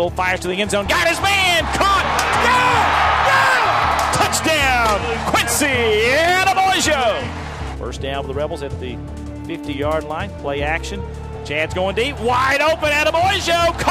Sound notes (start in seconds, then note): 2.3 cheering and yelling; 7.9 voiceover